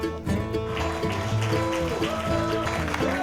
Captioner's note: crowd applause